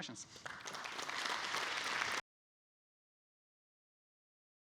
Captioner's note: audience applauding